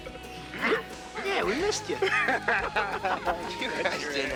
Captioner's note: both laugh